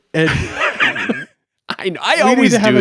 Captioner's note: chuckles